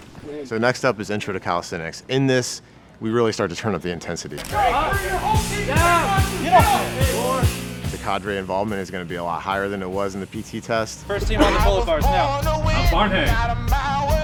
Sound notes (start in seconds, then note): 4.5 instructor shouting; 5.7 recruits grunting